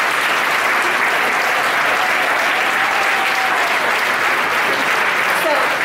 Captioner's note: audience applauding